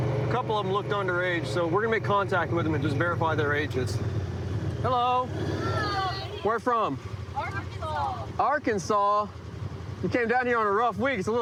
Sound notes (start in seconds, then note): none